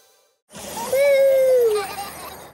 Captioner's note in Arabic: صوت ضحك ومرح